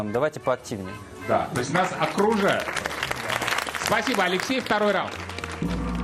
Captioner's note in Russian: аплодисменты